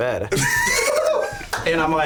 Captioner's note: laughing